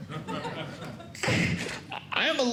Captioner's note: sneezing